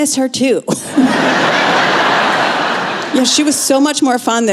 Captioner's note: laughter